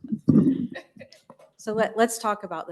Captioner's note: laughter